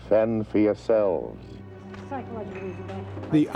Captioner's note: woman talking